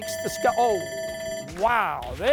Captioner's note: bell rings